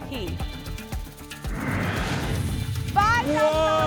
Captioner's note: whoosh